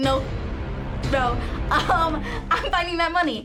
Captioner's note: dramatic chord; laughs